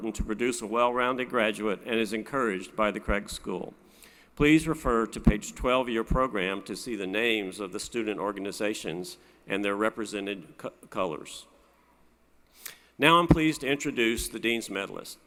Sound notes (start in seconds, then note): none